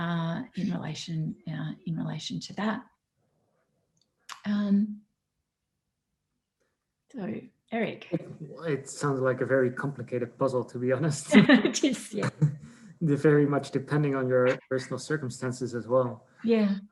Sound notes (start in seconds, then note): 11.1 laugh